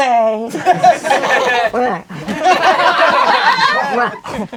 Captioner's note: crowd laughing